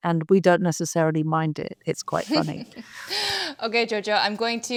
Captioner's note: laughs